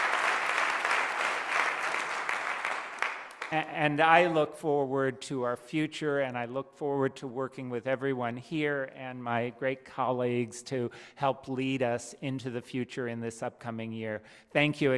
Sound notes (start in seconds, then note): 0.0 applause